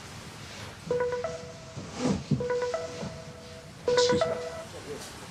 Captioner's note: phone rings